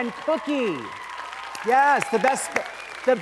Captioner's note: audience applauding